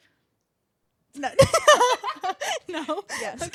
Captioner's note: laughing